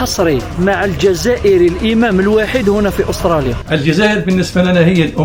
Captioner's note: laughs